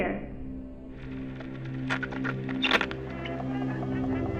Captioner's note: static crackling; gentle intense music; melodic 1920's music